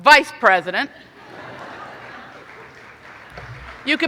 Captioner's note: laughing